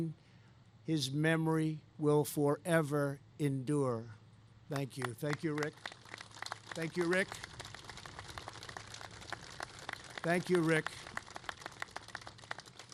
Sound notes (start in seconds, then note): 6.0 applause